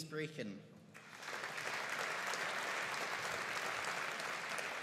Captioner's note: audience applauding